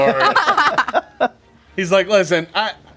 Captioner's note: group laughing